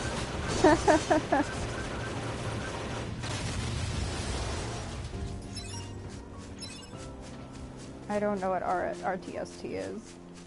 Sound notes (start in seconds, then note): 0.6 laughs